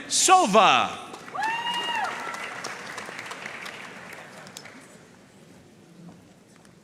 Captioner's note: audience cheering and applauding